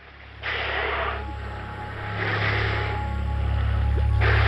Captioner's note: spouting